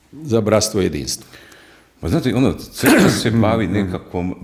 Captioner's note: coughs